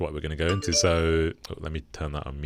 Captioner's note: computer chiming